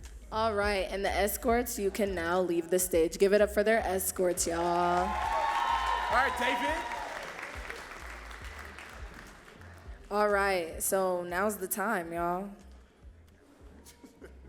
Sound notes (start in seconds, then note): 7.2 audience cheering and clapping